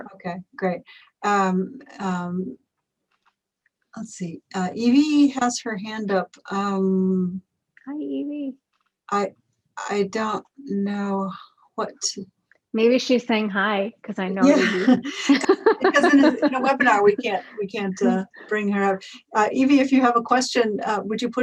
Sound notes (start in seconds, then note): 14.4 laughs